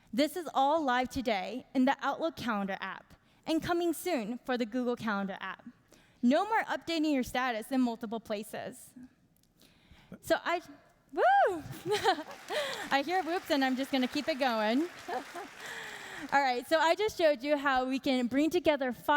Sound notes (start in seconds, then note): 11.7 chuckles; 15.2 applauding